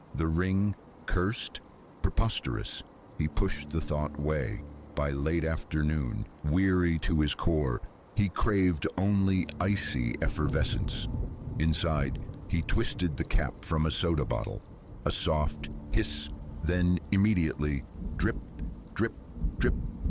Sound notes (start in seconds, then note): 16.1 hiss; 18.2 drip… drip… drip